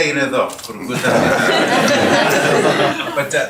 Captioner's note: laughter